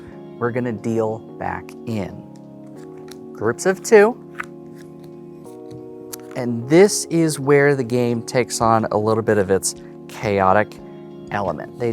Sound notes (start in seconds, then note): 4.2 cards slapping